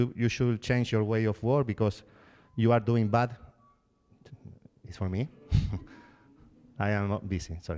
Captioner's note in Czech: zvoní mobil